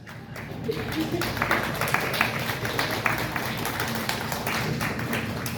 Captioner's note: audience laughs and applauds